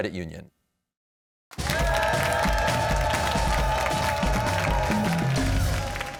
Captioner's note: cheers and applause